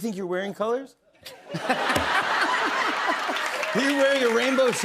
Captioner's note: laughter